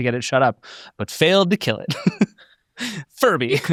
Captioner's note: laughs